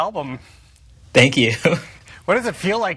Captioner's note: laughs